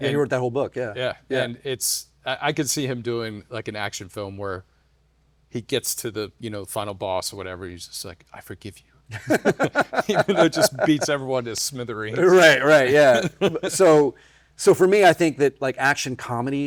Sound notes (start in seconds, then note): 9.2 laughing